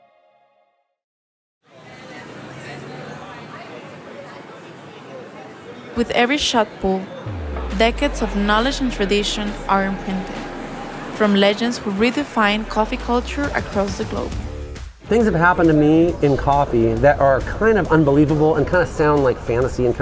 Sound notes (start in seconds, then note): 2.2 city life bustling